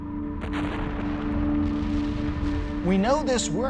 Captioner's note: volcano erupting